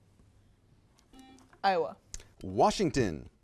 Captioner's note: buzzer beeps